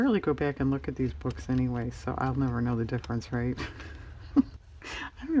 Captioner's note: laughs